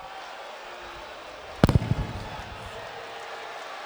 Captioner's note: crowd murmuring